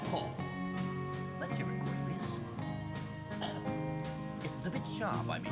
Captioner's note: coughs